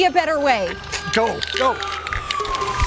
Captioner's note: siren wailing